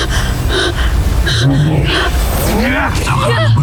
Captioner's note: powerful whoosh-crackle; growls & grunts; powerful blast-crackle